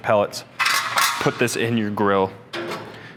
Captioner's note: metals clinking